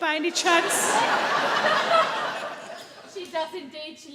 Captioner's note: audience laugh